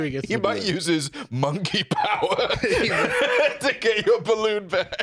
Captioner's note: laughs